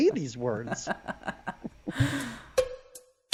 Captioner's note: laughing; upbeat techno music